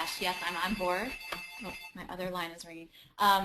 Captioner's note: ringing continues